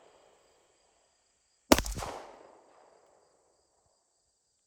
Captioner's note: gun shots